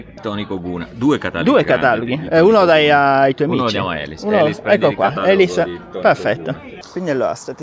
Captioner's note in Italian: risate